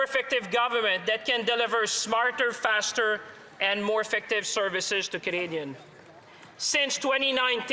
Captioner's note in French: voix de l'interprète